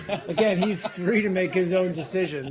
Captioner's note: laughter